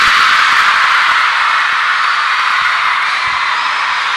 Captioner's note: unanimous applause